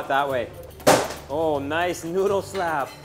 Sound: slapping

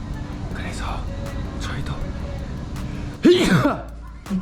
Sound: whispering

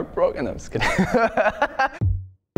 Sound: laughs

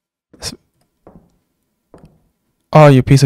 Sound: shoes clattering up stairs

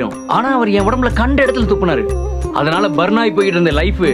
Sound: none

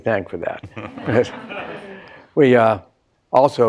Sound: laughter

